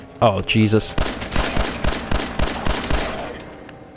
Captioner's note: blam! blam! blam! blam! blam! blam! blam! blam!